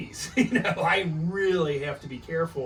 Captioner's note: laughs